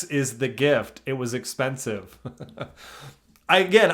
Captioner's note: laughs